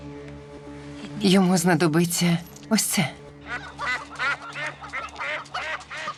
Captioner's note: quacking and clucking